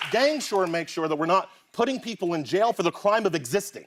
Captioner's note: applause